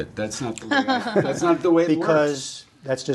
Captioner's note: laughter